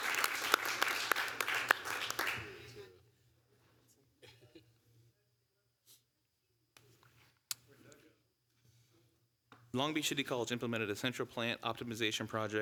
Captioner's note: applause